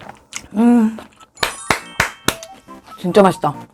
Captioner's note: A round of applause